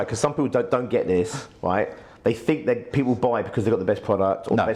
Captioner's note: none